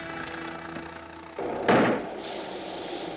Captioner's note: tire bursts